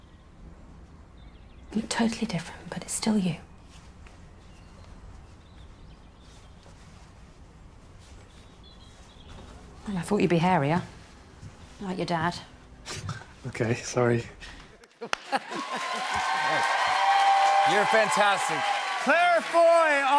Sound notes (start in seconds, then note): 14.4 laughs; 15.1 cheers and applause